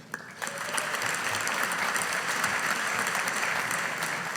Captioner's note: audience applauding